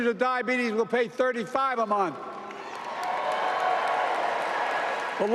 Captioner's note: applause